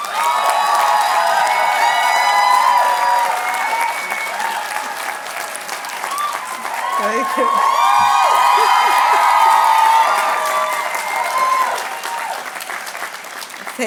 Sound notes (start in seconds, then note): 0.2 cheering and applause; 8.2 laughing; 10.4 cheering and applause